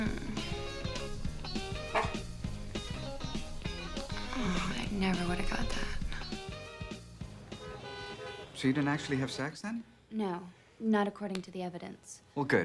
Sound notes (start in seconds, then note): 1.6 Paxil barks